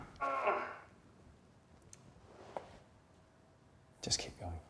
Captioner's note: machine blaring; grunting